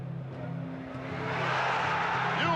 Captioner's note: crowd roaring